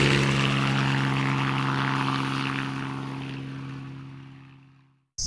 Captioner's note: engine noise